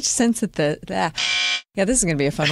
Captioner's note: honk